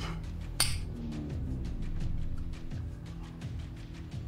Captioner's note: glasses clink; suspenseful music